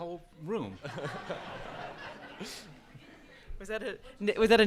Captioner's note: audience laughs